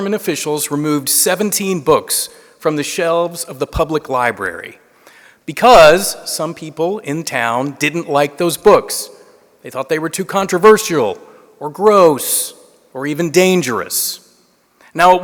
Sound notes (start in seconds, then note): none